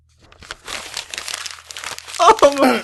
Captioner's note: papers crinkling and rustling